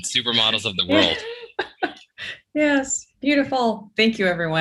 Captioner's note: laughing